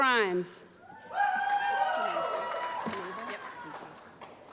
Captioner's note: applause